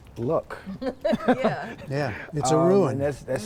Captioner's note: laughter